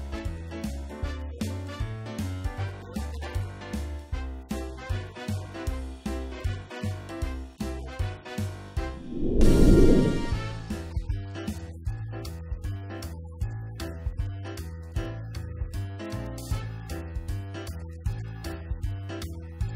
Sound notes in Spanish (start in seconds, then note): 8.9 woosh